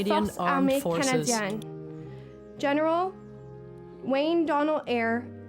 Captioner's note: speaking French